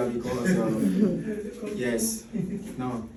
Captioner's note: chuckles